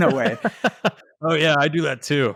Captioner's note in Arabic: يضحك